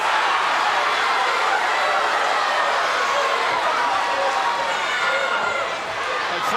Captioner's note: crowd jeering